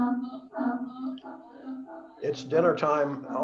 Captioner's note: cows mooing in background